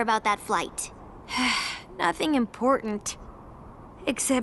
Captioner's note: sigh